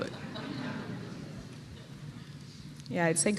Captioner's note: laughter